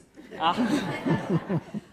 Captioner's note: laughter